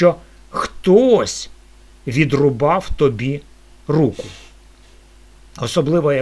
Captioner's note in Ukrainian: прочищення горла